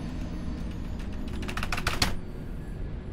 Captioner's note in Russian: удары по клавиатуре